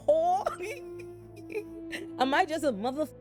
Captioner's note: laughing